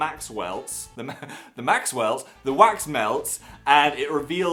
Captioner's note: laughs